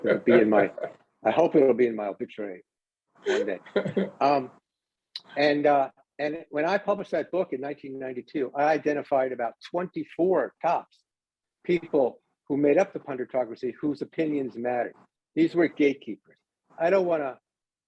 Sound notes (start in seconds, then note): 3.3 laughs